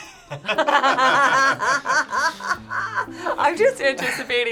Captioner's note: laughing